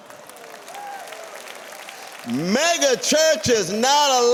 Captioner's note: applause